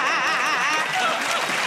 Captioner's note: laughter and applause